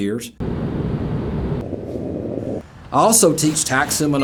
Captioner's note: plane whooshing; suitcase rolling